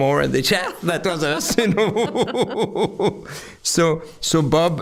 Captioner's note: both laughing